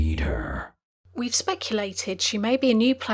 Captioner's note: voiceover